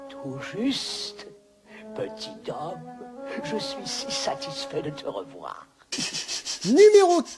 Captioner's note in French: tss tss tss tss tss